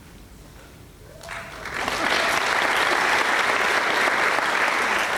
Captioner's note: applause